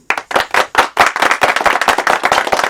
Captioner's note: audience applauding